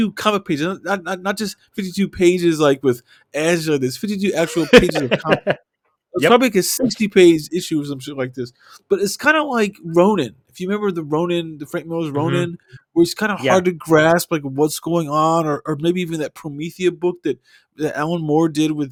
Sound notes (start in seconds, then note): 4.3 laughing; 4.3 laughter